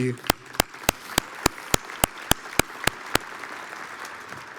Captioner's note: audience applauds